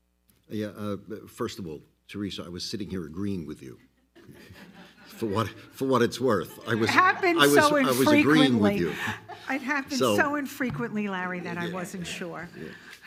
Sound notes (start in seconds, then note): 4.2 all laugh loudly